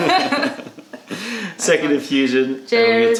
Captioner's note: laughter